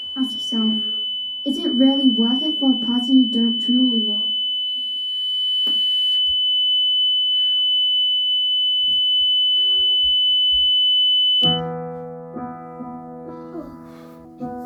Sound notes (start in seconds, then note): 5.2 high-pitched beep